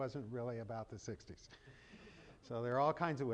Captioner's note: chuckling